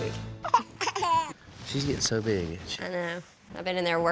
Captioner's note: giggles